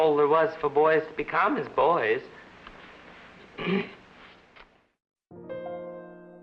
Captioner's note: clears Throat